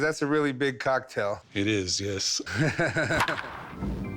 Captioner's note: chuckles